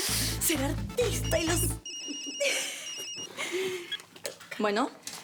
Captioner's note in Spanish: Suena un celular